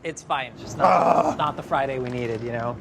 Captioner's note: groans